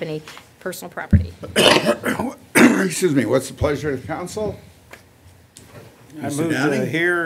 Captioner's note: coughing